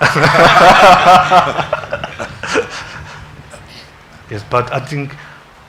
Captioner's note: congregation laughing